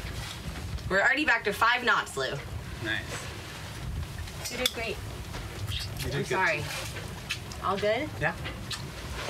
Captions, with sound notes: We're already back to five knots, Lou. You did great. (lips smacking) - You did good, too. - I'm sorry. (lips smacking) All good? - Yeah.